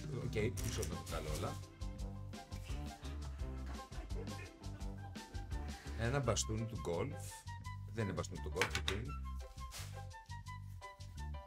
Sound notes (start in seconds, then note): 3.9 laughs